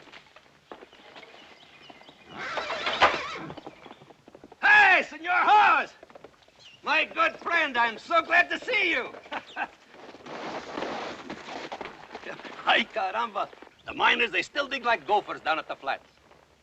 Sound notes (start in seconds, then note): 2.2 horse whinnying; 9.2 laughs